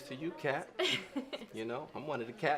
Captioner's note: laughs